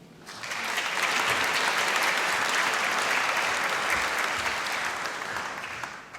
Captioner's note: applause